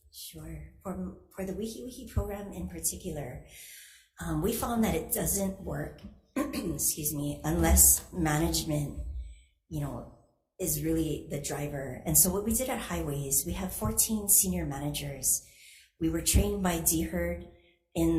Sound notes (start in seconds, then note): 6.4 clears throat